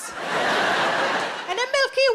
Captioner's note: audience laughing